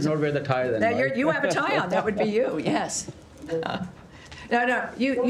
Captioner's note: laughter